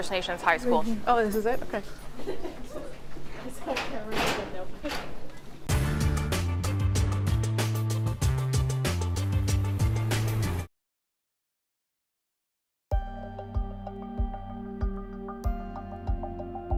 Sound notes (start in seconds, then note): 5.1 soft chatter